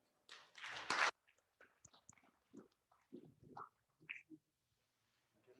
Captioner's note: classroom audience applauding